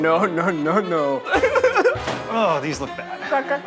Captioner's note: Zach sobbing